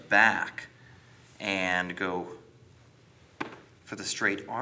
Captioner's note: gentle tapping